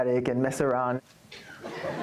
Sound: laughter

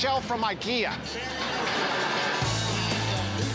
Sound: laughter

